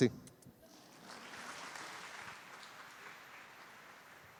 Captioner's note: applause